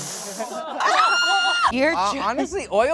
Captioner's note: screams